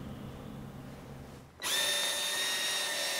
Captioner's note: drilling noises